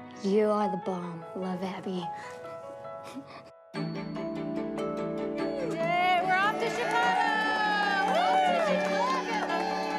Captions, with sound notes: You are the bomb. Love, Abby. (WHIMSICAL MUSIC) Yay! We're off to Chicago! Whoo! (APPLAUSE)